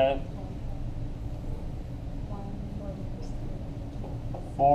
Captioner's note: background Conversation